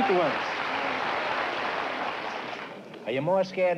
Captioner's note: applause